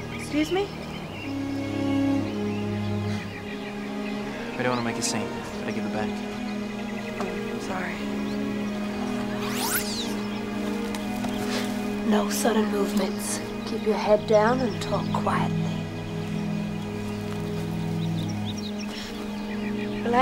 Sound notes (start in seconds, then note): 9.4 headset beeps; 16.7 ominous music